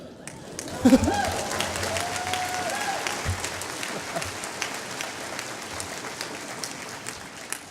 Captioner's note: applause